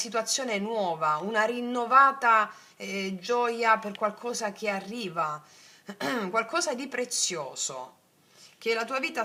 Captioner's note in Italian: schiarire la voce